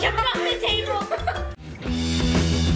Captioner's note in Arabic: يضحك; موسيقى صاخبه